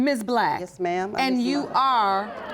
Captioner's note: audience murmuring